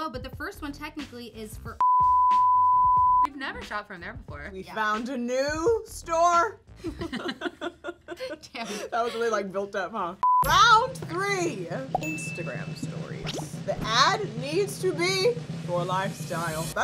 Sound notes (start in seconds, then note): 1.8 beep; 6.8 girls laugh; 10.2 beep; 11.5 drum roll; 11.9 bell dings